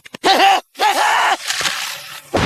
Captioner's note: laughing